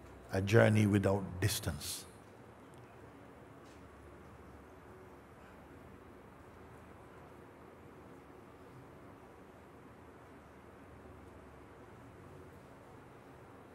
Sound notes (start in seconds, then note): 3.5 Stille